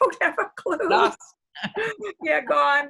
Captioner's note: laughter